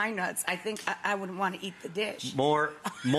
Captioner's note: laughs